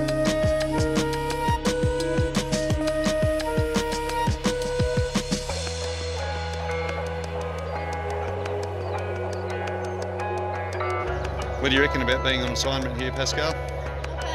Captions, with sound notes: (birds chirp) - What do you reckon about bein' on assignment here, Pascale?